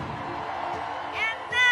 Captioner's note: cheering